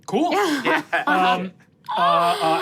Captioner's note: laughs